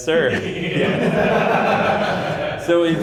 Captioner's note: laughter